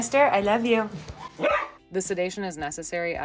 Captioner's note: Camper barks